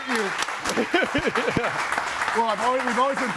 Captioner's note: laughs